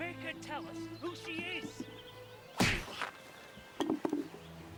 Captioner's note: loud smack